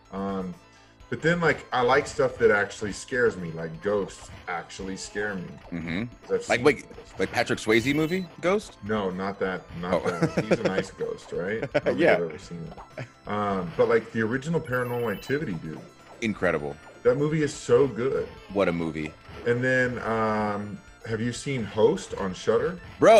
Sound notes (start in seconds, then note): 10.0 laugh